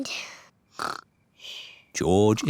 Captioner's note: snores